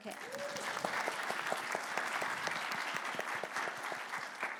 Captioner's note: audience clapping